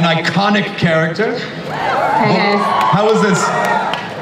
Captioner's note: audience cheers